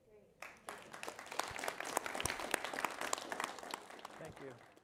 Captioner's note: applause